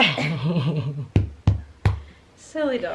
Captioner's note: laughing